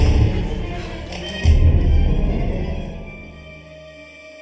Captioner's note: suspenseful music; door clicks; door creaking